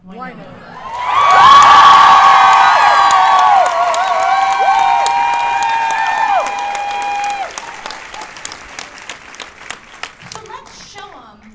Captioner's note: cheers and applause